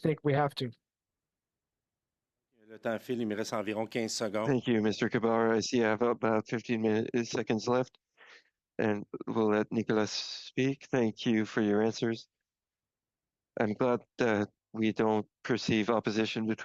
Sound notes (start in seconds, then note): 6.7 speaking French